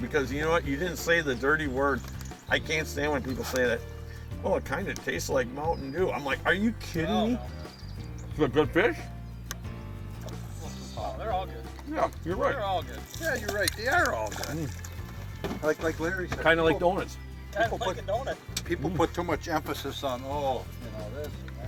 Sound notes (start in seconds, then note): 11.6 voiceover; 19.2 voiceover